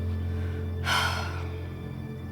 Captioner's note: sighs